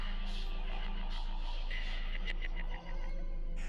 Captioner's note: eerie whispering